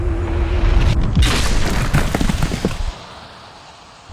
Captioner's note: sound of an approaching car; impact noises